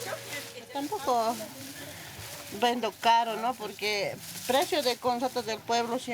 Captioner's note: speaking in foreign language